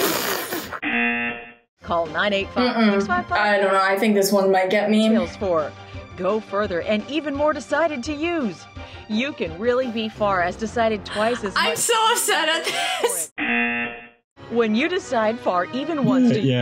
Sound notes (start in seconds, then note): 0.1 buzzer rings; 0.1 laughs; 13.4 buzzer rings